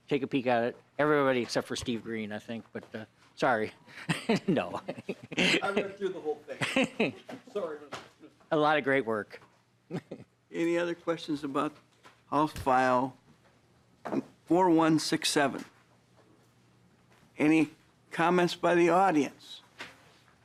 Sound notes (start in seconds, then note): 9.8 laughter